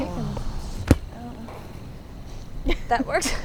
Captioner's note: kicking sound